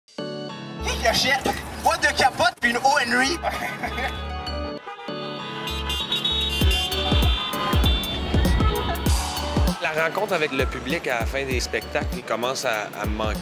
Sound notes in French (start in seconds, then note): 2.7 klaxons; 3.4 rires